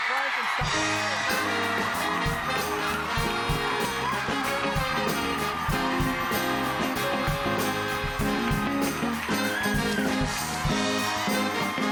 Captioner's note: cheers and applause